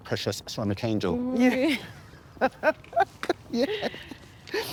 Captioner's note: Evelyn laughing